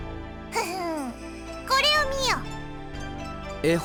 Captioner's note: chuckle